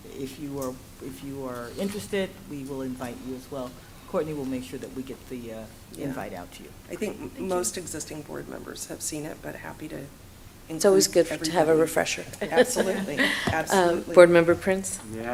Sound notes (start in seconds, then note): 12.3 laughs